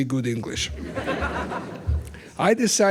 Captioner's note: laughter